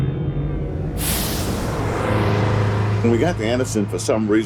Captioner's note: bus engine revving